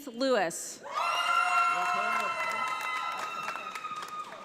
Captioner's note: audience applauding